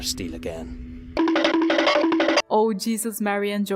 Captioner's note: cartoon running sound